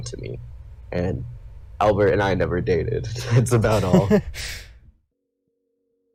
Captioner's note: laughs